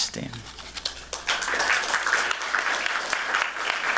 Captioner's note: applause